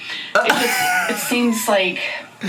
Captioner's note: laughs